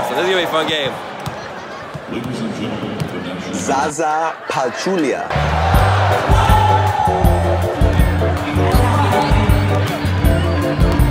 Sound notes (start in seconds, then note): 5.2 crowd cheering; 5.3 upbeat music